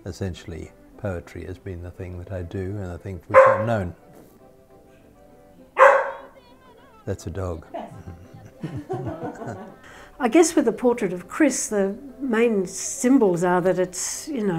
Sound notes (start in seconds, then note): 3.3 dog barks; 5.7 dog barks; 7.6 laughs